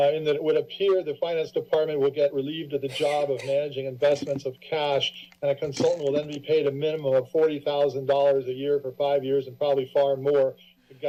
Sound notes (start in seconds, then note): 2.8 coughing